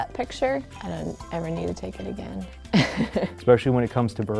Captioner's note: laughs